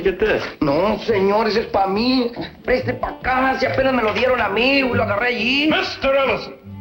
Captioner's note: speaking spanish